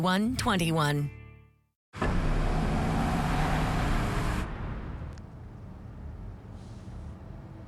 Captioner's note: SFX: Engine sound